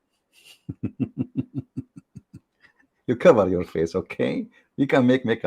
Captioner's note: Ketawa